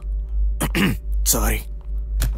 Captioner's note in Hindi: गले को साफ करता है